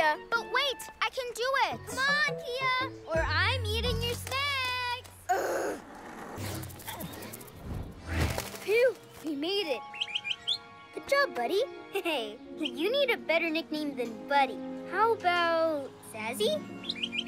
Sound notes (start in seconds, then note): 9.9 chirps